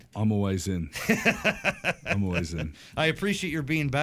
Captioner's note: laughter